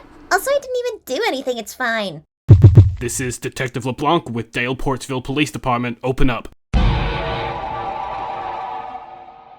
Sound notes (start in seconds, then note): 2.4 banging on the door; 6.7 scary noise